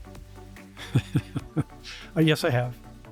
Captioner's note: laughter